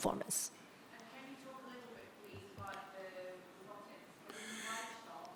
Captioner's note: participant faintly speaking